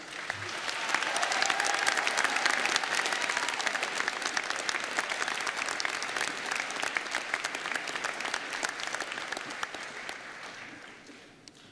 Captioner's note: applause